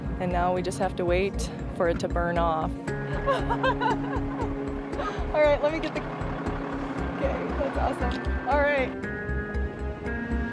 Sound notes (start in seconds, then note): 3.1 laughs